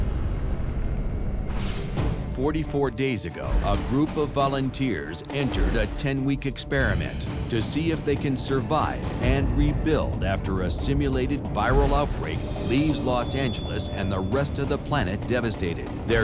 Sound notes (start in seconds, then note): none